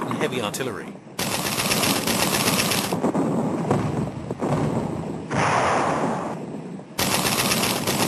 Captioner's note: guns blasting; heavy artillery booming